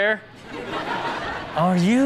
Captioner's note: audience laughs